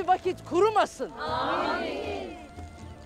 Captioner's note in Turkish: Hep bir ağızdan